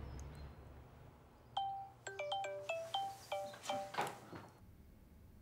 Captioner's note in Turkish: Telefon çalıyor